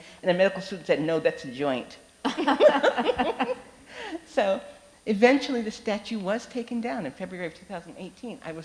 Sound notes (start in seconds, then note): 2.3 both laughing